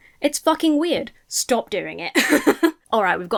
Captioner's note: laughs